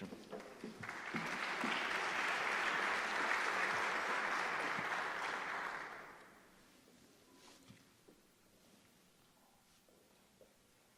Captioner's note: applause